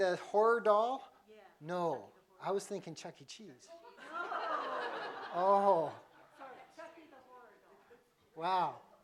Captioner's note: laughter